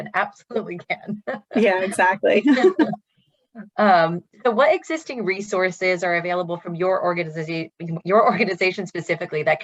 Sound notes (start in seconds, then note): 1.4 laughs; 2.2 both laughing